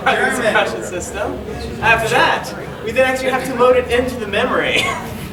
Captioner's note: laughing